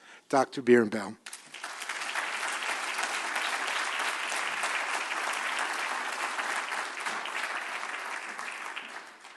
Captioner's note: applause